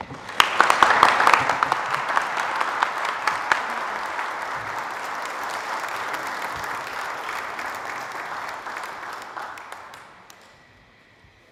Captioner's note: applause